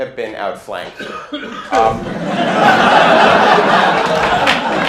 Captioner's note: laughter